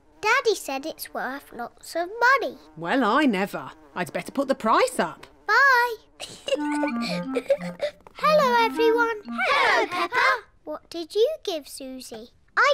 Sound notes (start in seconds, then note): 6.2 giggles